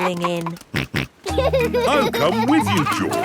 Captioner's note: snorts and laughs